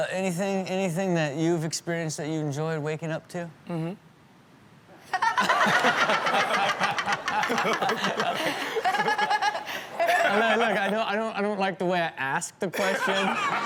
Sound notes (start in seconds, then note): 5.1 audience laughs